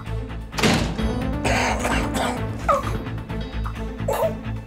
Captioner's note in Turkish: Öksürüyor